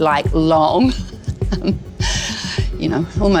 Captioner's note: laughs